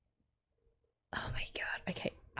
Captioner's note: whispers